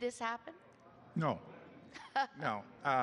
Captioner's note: laughter